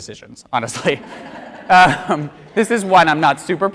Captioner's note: audience laughs